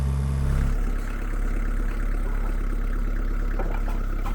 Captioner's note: engine idling